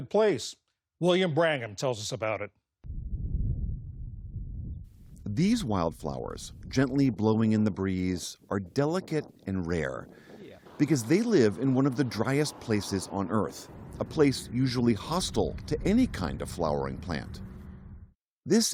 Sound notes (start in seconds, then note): 6.3 voice-over